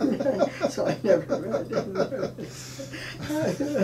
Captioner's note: laughing